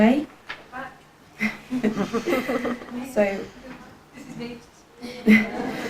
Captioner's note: audience laughs